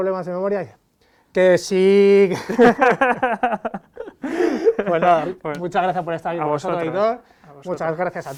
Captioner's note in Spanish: Risas